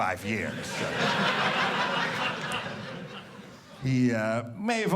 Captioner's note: audience laughing